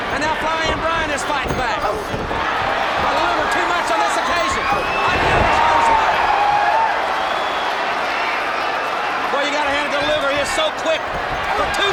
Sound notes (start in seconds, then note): 2.1 blows thudding; 2.1 footsteps plodding; 5.1 footsteps plodding; 9.9 body thudding